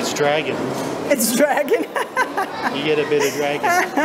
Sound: laughs

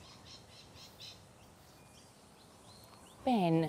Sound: birds singing

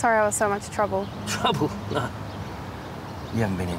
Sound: laughs

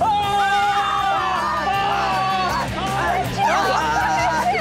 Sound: screaming

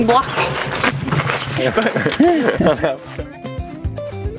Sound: laughter

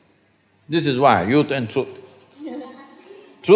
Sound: few laugh

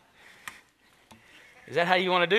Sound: congregation laughs

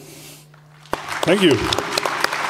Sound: thunderous applause

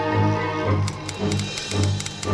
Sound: typing

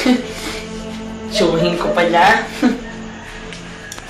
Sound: chuckles

